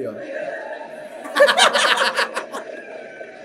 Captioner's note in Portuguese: riem